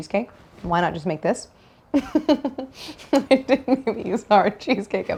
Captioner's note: laughs